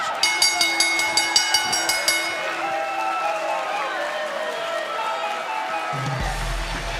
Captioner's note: bell rings